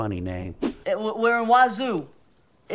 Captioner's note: graphics whooshing